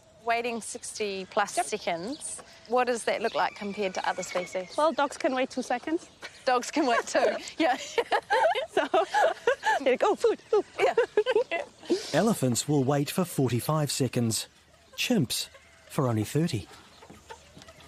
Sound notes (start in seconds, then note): 6.2 laughs; 10.5 both laughing